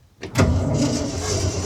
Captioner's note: engine noise